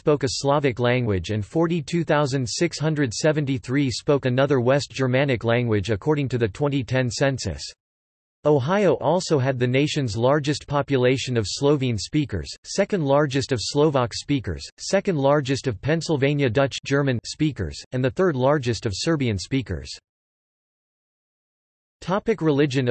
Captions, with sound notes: spoke a Slavic language and 42,673 spoke another West Germanic language according to the 2010 Census. Ohio also had the nation's largest population of Slovene speakers, second largest of Slovak speakers, second largest of Pennsylvania Dutch (German) speakers, and the third largest of Serbian speakers.